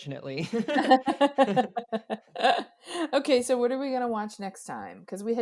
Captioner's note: both laugh